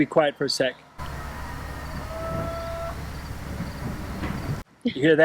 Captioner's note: people heckling